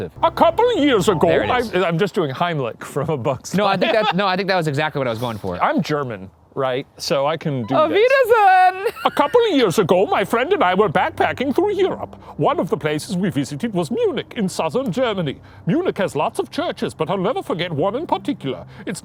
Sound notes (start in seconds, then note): 3.5 laughing; 8.0 exclaiming in German